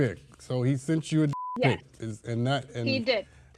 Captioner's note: beep